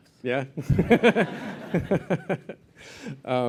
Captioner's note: laughter